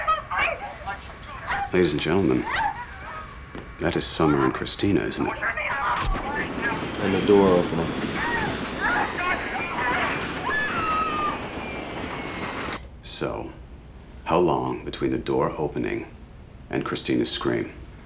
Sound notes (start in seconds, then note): 5.9 clank and whoosh; 8.4 whooshing, woman screaming; 9.9 engines whining, screaming continues